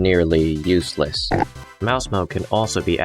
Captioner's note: oink